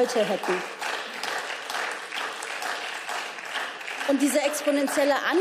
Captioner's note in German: Beifall